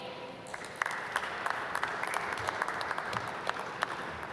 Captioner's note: applause